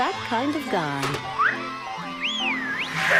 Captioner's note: woman whistles